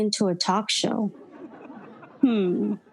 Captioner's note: audience laughing